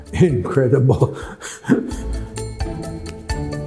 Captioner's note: chuckles